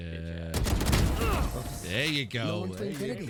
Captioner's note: gun shots; offscreen players cheer